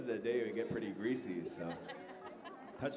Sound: chuckles

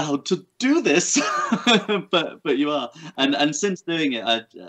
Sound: laughs

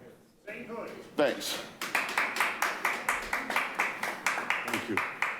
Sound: audience applauding

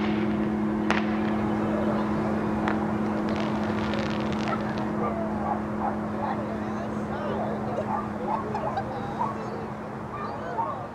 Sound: woman is laughing

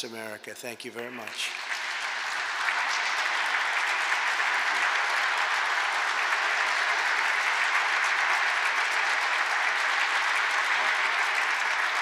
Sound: applause

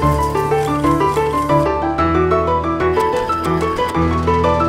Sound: conveyor belt clicking; conveyor belt clattering

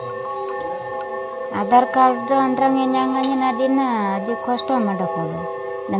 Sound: speaking sora

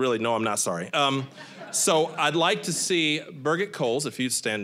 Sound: audience laughing

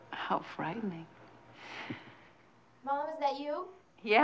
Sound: both laugh quietly

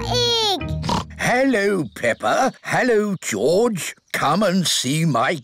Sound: oinks

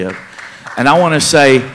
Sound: applause

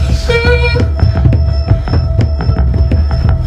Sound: whimpering

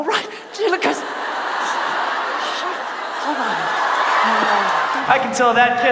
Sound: audience laughs

